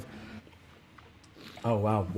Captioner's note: slurps and swishes wine